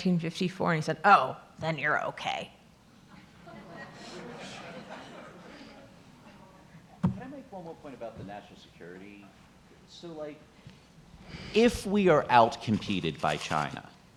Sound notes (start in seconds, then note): 3.1 audience laughing